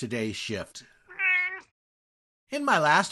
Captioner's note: meow!